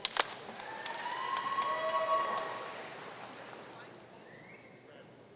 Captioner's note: audience cheering and applauding